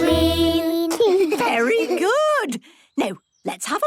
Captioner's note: children giggling